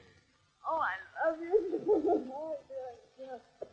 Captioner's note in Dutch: huilend